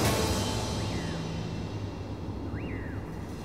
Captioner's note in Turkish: Kuşlar ötüyor